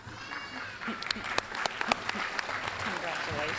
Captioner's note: applause